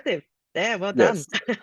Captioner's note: laughs